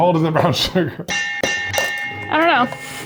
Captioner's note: bell ringing